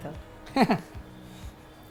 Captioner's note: chuckles